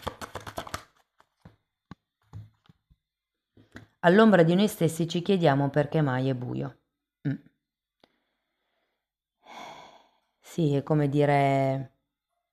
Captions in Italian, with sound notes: All'ombra di noi stessi ci chiediamo perché mai è buio. Mh, [sospiri] sì, è come dire,